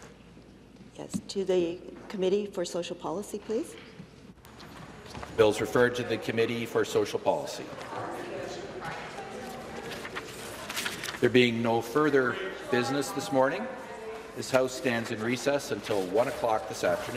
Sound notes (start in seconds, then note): none